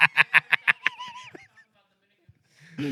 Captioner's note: laughing